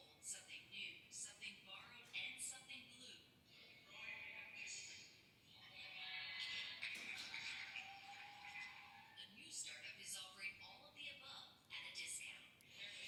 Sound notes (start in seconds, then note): 6.7 applause and cheering